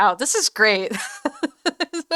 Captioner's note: laughter